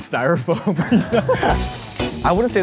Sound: laughing

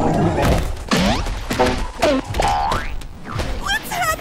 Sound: Gloink Queen groaning; blows thudding; cartoon blows thudding

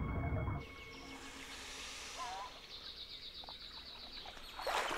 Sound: birds chirping

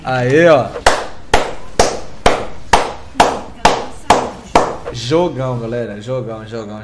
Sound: clap

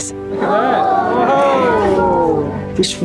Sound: crowd

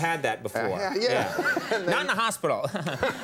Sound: chuckles; audience laughs

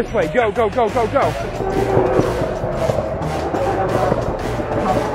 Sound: scooters tyres roaring

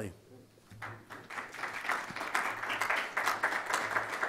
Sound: audience applauds

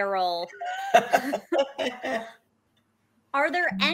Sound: laughing

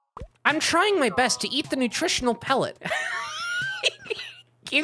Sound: laughing

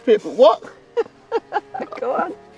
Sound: laughing

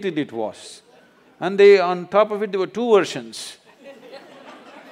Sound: laughter

